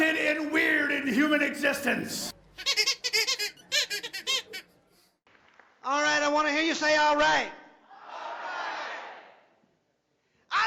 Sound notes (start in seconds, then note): 2.6 balloon squeaks